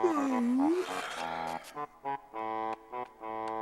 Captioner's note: yawns